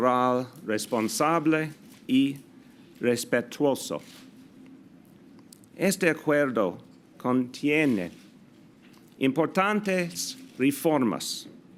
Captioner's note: delivers remarks in Spanish